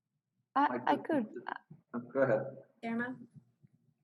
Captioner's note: laugh